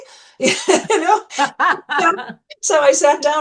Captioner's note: laughter